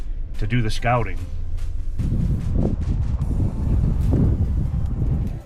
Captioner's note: wind blowing